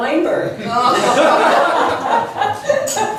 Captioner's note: laughs